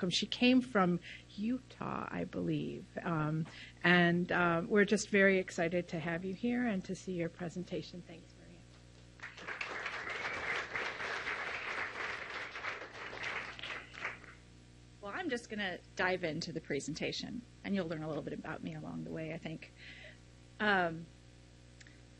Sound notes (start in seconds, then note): 9.2 audience applauds